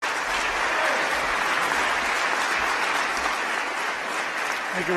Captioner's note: applause